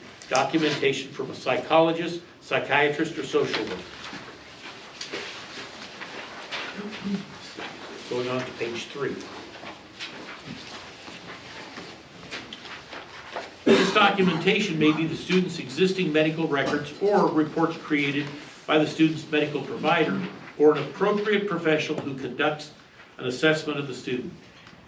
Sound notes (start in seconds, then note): 4.2 papers flipping; 10.8 papers flipping; 13.6 male audience member coughs